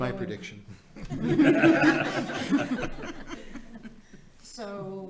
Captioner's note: audience laughing